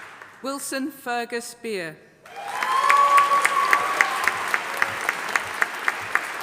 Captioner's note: audience applauding